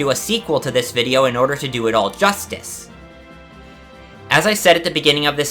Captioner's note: breathe